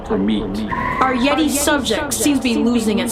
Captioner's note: eerie squealing